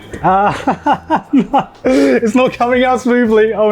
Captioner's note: laughs